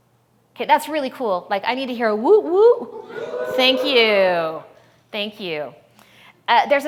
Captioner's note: audience cheers